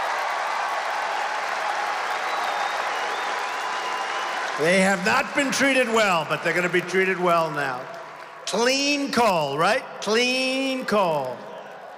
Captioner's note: applause